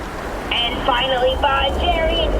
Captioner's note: ship noises